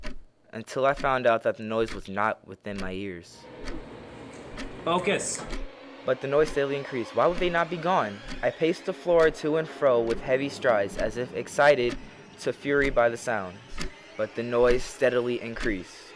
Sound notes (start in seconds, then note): 4.4 snapping